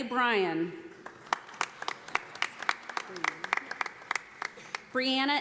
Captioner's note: audience applauding